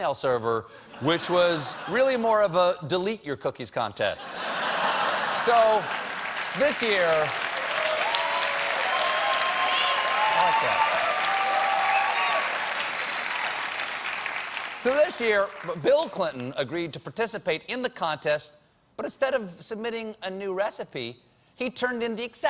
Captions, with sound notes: WHICH WAS REALLY MORE OF A "DELETE" YOUR COOKIES CONTEST. (LAUGHTER) (CHEERS AND APPLAUSE) SO THIS YEAR "BILL" AGREED TO PARTICIPATE IN THE CONTEST BUT, INSTEAD OF A NEW RECIPE, HE TURNED IN THE EXACT SAME RECIPE